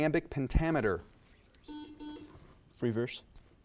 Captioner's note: buzzer buzzes